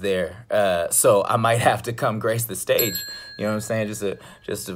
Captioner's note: bell rings